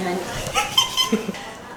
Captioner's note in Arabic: ضحك